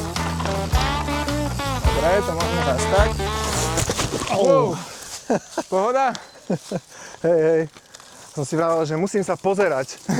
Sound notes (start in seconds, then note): 4.1 bike thuds; 5.1 laughs